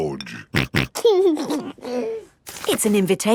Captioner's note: snorting and giggling